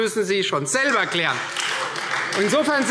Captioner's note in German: Beifall Freie Demokraten